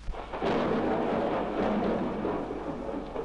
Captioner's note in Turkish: Fonda gök gürültüsü